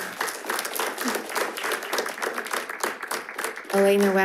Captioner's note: audience clapping